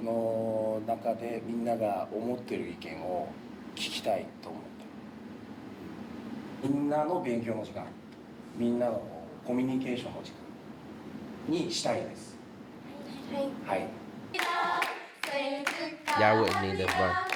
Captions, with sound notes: (speaking in foreign language) (singing in foreign language) Y'all wouldn't need it bro.